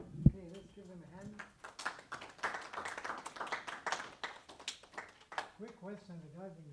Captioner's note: applause